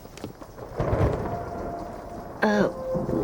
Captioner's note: thunder crashing